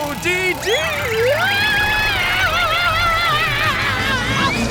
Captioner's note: screaming